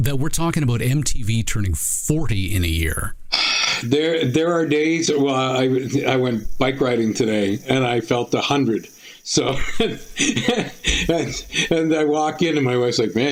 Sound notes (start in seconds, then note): 3.3 sighing; 9.4 laughing